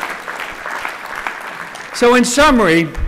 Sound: applause

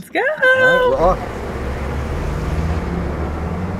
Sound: car zooms

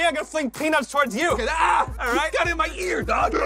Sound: screams

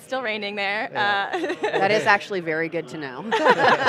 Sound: laughing

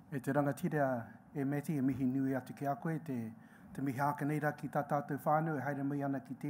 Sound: speaking in foreign language

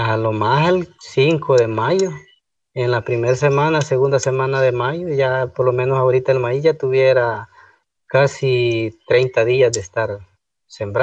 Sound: foreign Language

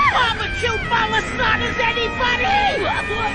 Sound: scared

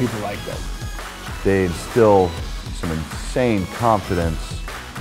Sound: voiceover

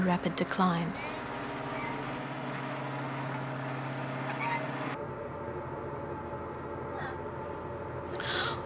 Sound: boat motor

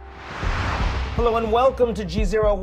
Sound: air whooshing

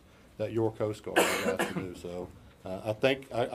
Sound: voice drowned out by coughs

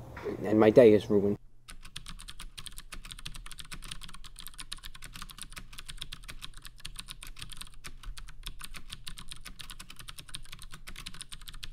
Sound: typing sounds

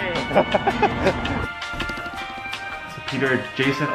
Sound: laughter

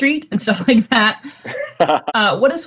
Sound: laughs

